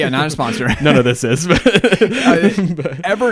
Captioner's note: laughs